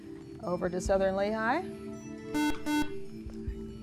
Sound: buzzer

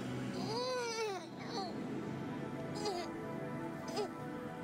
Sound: Crystal groans

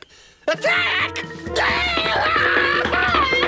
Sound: screaming, muttering

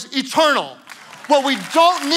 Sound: congregation clapping

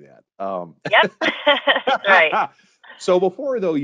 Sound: both laughing

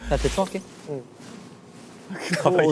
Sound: swoosh

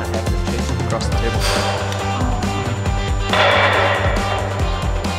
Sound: metal banging

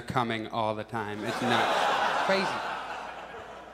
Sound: audience laughs

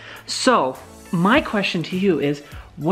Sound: none

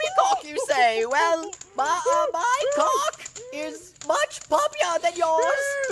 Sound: stammering

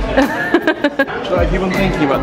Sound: laughing

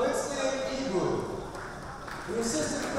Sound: applause

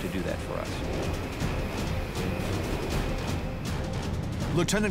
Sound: engines whirring

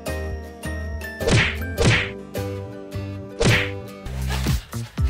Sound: slap slap

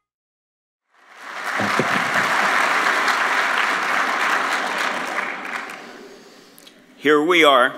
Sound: applause

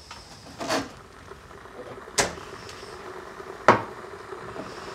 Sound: kettle rumbling

